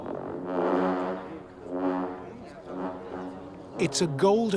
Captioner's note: horns blowing